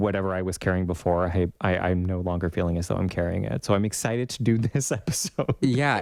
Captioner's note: laugh